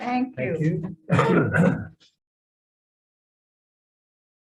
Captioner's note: gavel pounding